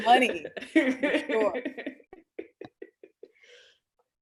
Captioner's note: laughs